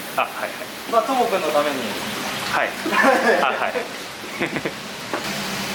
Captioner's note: laughs